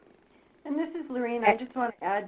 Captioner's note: voiceover